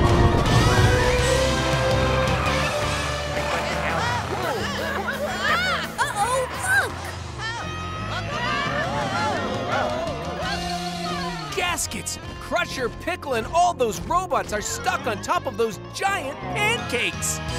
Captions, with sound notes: [screaming] Uh-oh, look. [screaming] Gaskets, Crusher, Pickle and all those robots are stuck on top of those giant pancakes!